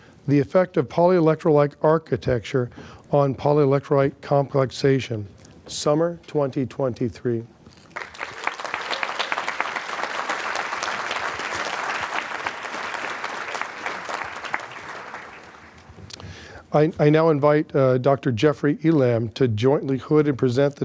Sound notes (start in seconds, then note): 7.8 applause